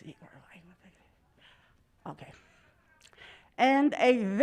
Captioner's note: mutters